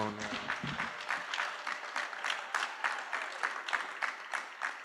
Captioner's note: applause